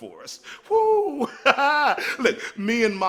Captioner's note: chuckles